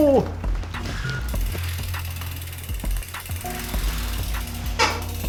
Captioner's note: bike clicking